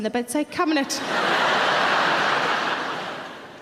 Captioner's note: audience laughing